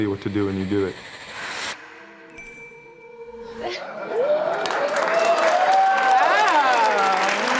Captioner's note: audience cheering